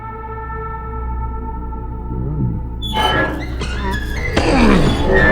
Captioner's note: heavy door opening, snapping of vines. Nighttime sounds; transitional music